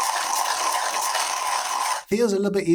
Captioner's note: coffee grinding